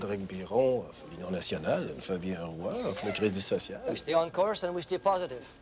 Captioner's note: speaking foreign language